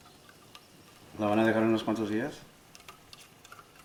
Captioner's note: Spanish